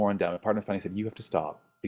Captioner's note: speaks faintly